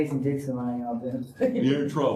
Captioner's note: laughter